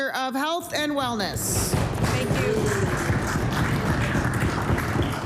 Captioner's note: applause